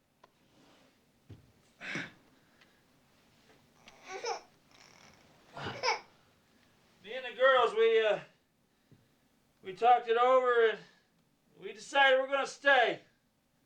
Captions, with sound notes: [gasping] [baby crying] ME AND THE GIRLS, WE, UH, WE TALKED IT OVER AND WE DECIDED WE'RE GONNA STAY.